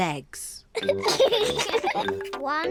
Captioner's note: both giggle